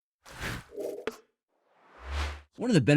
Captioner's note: screen whooshes